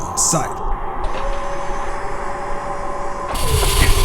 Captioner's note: strange wind noise